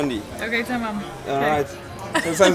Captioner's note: Turkish